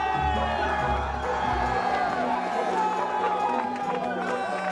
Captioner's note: candidates cheering